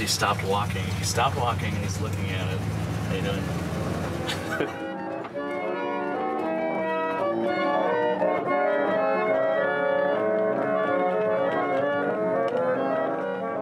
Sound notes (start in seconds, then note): 4.2 laughs; 5.8 player piano music